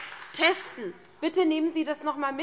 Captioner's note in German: Lebhafter Beifall SPD